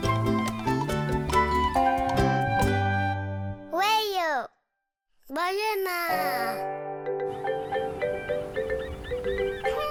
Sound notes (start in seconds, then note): 5.5 speaking foreign language